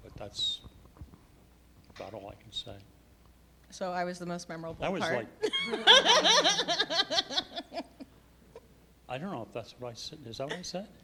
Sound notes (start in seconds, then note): 5.4 laughing